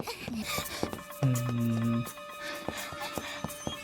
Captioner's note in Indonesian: menangis